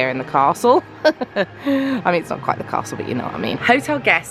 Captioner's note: laughing